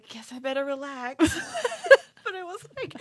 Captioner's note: laughs